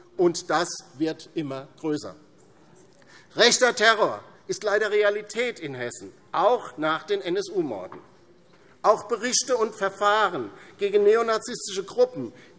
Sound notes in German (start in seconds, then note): none